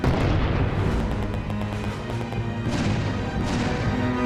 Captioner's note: bomb exploding; gunshots firing; tense music